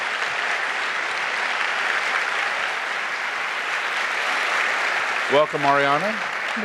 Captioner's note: applause